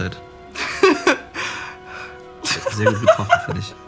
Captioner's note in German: lacht